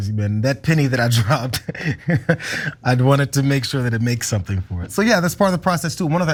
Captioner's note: laugh